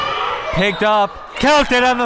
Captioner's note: whistle tweeting